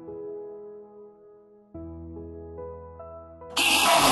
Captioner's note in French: bruit d'horribles créatures